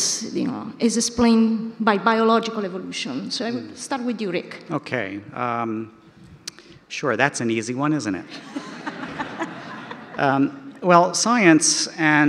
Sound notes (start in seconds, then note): 8.3 audience laughter